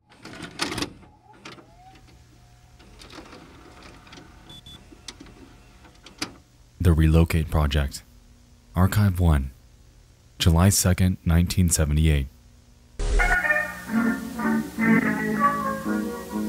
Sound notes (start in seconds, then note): 0.2 cassette clacks; 1.7 VHS machine whines; 13.1 pleasant jazz music